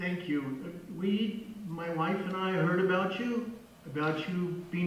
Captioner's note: voice on phone